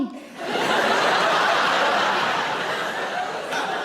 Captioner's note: audience laughing